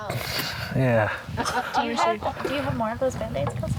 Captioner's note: woman laughs